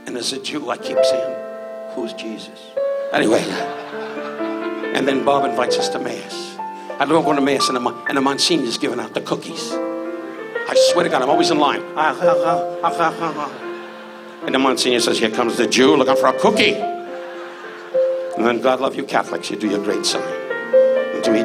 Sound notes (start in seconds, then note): 3.3 audience laughs; 12.0 audience laughs; 12.5 Don muttering; 16.9 audience laughs